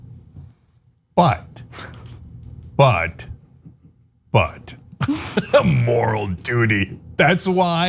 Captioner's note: laugh